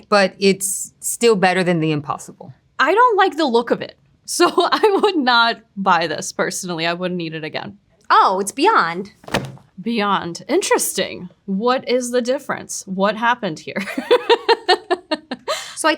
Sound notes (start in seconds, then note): 9.2 packaging thudding; 14.0 laughs